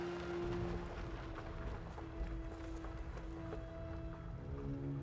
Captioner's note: gravel crunching; solemn music continues